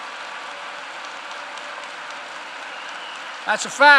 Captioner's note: applause